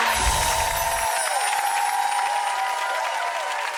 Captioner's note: audience claps